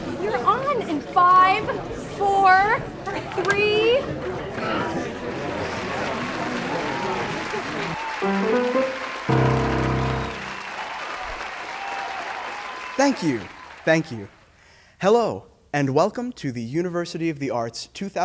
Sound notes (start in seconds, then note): 6.2 crowd applauds; 8.2 up-beat music